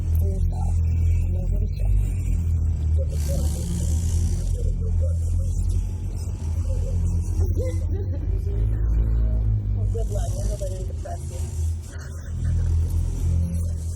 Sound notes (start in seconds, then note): 7.4 Estelle laughs; 11.9 laughs